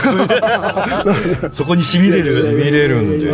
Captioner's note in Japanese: 笑い